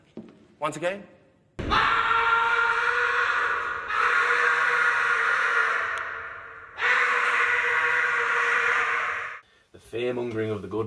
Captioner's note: screams